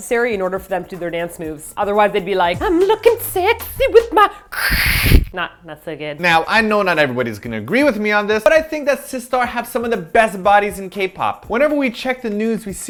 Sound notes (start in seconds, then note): 4.5 horrid ripping sound